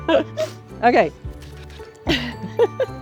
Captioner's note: both laugh; spitting; both laughing